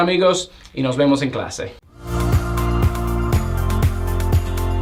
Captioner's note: Spanish